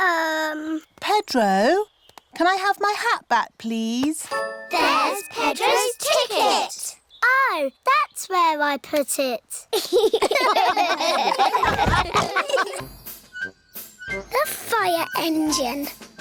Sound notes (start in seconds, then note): 9.7 all laugh